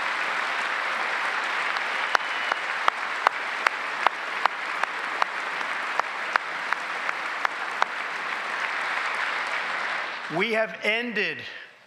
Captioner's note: applause